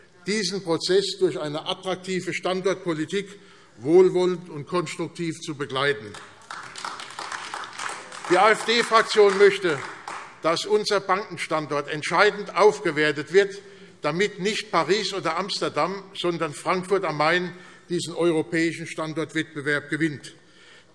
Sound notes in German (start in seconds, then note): 6.0 Beifall AfD